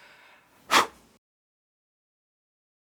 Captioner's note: blows out candle